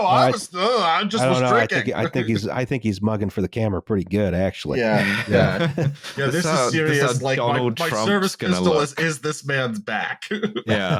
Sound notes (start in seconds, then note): 4.9 sighs; 9.6 laughs